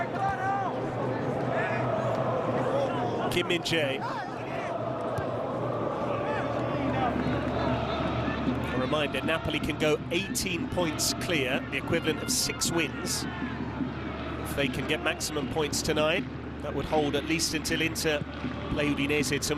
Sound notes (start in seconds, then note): 8.3 crowd noise; 9.0 drumming